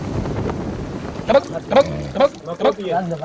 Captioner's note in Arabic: الصوت المنطوق باللغة الأجنبية